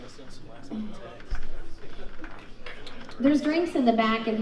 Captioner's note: crowd chatting